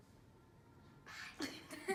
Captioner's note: whisper